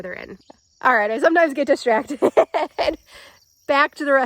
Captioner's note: laughing